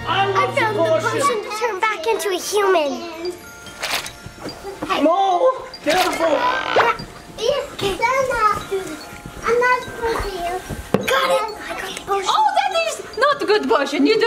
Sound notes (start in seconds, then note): 3.1 audio chiming; 3.1 audio squelching; 5.7 audio pops